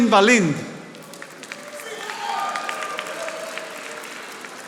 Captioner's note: audience applauding